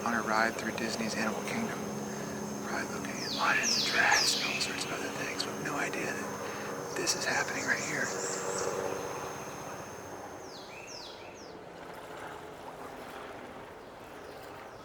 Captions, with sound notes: on a ride through Disney's Animal Kingdom, probably looking at lions and giraffes and all sorts of other things with no idea that this is happening right here. (helicopter humming)